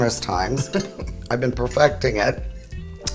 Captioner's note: laughing